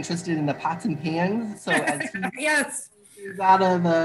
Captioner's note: laughing